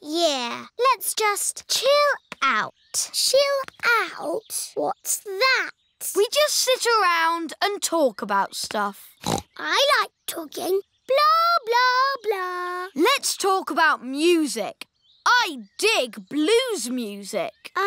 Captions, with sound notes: Yeah, let's just chill out. Chill out? What's that? We just sit around and talk about stuff. (SNORTS) I like talking. Blah-blah-blah. Let's talk about music. I dig blues music.